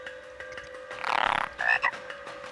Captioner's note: croaking